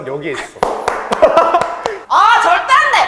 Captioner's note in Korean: 물개 박수